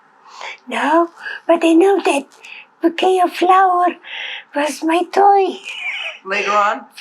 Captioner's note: laughing